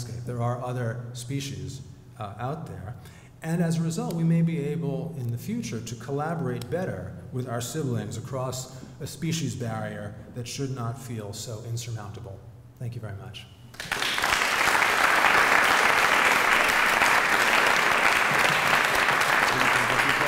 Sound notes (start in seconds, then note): 13.7 applause